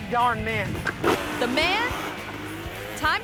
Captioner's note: motorbike revving